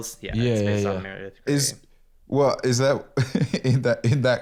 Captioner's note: laughs